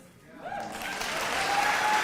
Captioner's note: applause